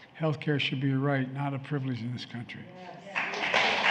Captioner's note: applause